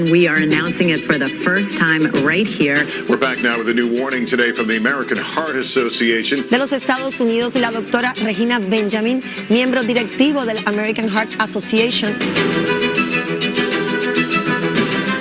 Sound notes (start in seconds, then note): 6.5 speaking in a foreign language; 12.5 uptempo music